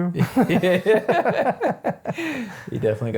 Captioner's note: laughing